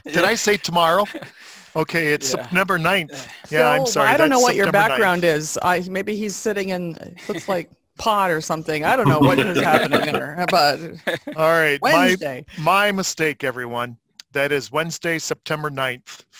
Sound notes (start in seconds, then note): 9.0 laughing